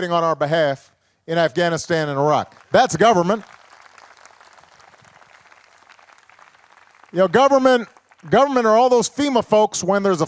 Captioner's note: applause